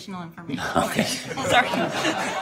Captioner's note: laughter